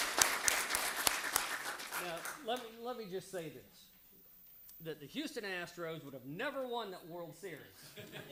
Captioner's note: applause